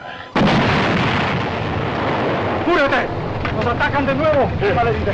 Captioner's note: explosion